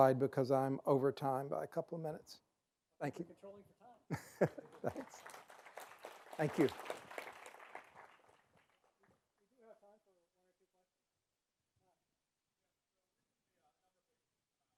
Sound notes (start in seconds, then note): 4.1 laughs; 5.9 applause